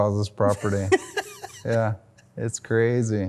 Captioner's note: laughs loudly